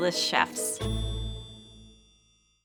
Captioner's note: logo chiming